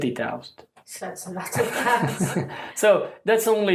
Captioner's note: laughs